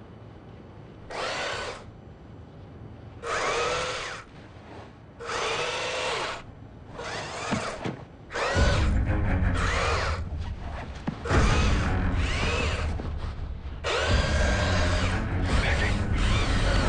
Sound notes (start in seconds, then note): 3.2 device whirs; 4.8 whir; 6.8 whir; 8.3 whir; 11.3 whir; 15.3 whirring